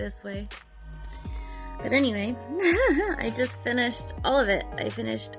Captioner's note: giggles